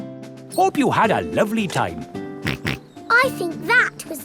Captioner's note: snorts